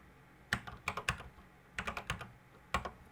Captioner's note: typing on a C64 keyboard